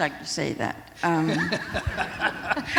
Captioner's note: laughter